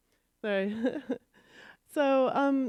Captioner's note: chuckles